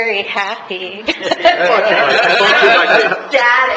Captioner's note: laughing